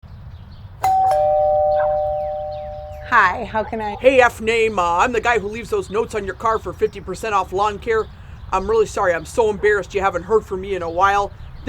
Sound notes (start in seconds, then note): 0.0 birds chirping; 0.8 doorbell rings